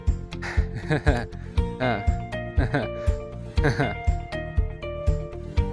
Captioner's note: laughs nervously